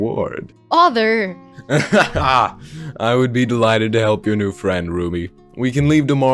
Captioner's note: laughs